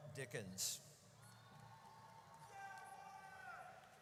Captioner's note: audience cheers